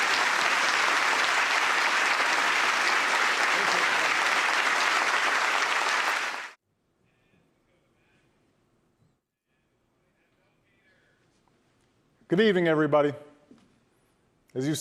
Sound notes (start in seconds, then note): 0.0 applause